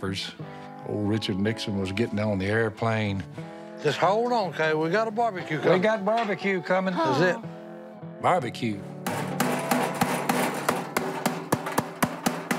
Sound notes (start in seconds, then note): 6.9 sighs; 9.0 loud clanging